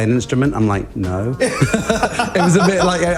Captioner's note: laughs